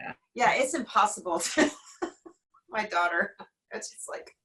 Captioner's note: laughing